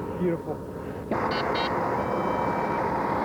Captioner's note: telephone busy signal